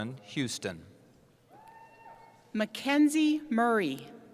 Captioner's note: cheering